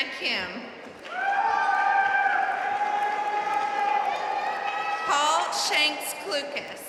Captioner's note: audience cheering and applauding